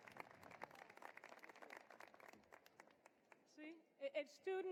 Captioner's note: applause